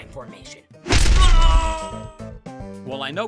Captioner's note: lifering screams